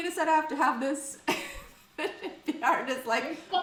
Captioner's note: laughs